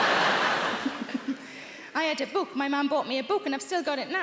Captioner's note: laughing; audience laughing